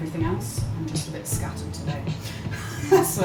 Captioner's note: laughs